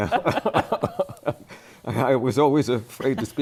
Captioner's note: laughter